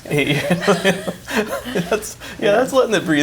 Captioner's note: both laugh